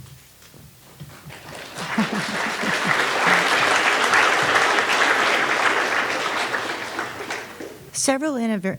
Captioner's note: all clapping